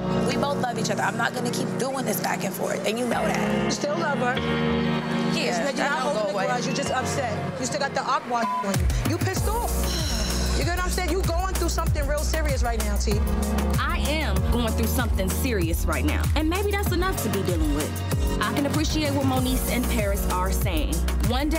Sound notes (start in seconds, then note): 8.4 beep; 9.8 exhales